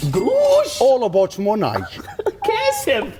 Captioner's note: laughs